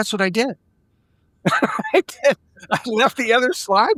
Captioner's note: laughing